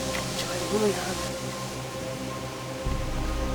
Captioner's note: whisper